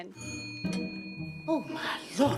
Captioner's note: bell chimes